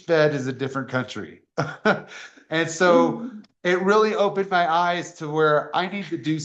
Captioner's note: laughter